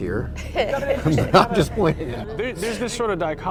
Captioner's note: laughs; everybody laughs